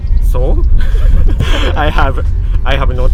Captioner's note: laughing